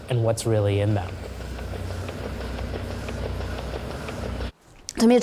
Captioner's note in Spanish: Ruido de la máquina de ordeño